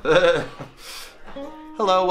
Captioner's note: chuckles